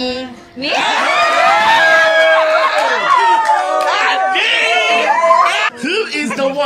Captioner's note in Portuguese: Gritos